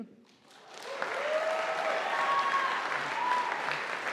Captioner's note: audience applauding